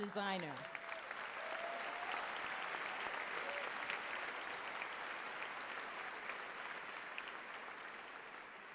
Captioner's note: applause